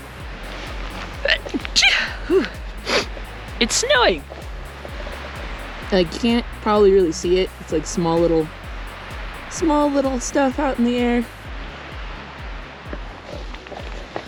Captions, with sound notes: (sneeze) It's snowing! Now you can't probably really see it. It's like small little small little stuff out in the air.